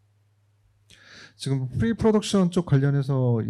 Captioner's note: speaking korean